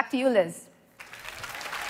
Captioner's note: applause